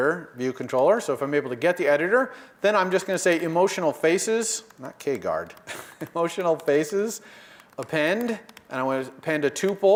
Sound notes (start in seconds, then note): 5.6 laugh